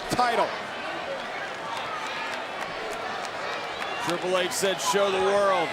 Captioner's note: applause